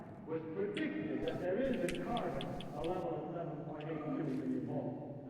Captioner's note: none